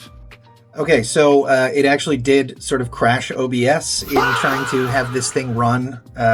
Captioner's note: screaming sound